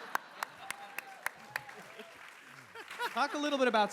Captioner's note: cheers